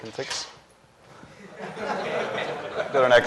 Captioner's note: laughter